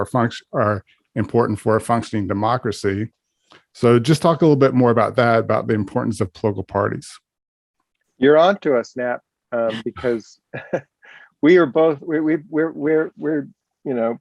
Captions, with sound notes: are important for a functioning democracy. So just talk a little bit more about that, about the importance of political parties. - You're onto us, Napp. Because (laughs)